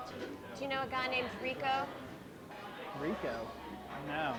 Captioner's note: none